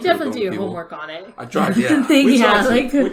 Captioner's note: laughs